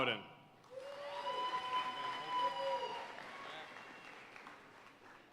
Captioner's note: audience cheering and applauding